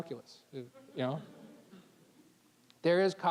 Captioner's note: audience chuckling